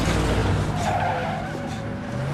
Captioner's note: tires squealing